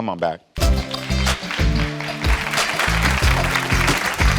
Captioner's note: audience applauds